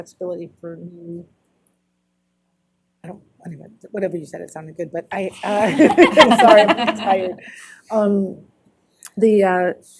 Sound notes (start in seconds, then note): 5.5 laughter